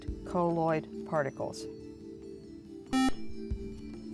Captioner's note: buzzer